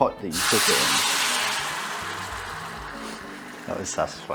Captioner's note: sizzling sound